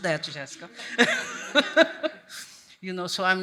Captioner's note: laughs